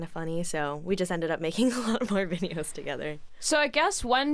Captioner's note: chuckles